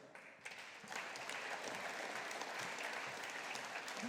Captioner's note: audience applauding